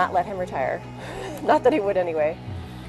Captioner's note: laughs